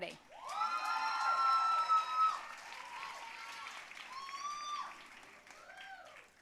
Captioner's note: audience cheering and applauding